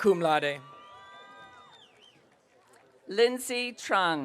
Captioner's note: audience cheering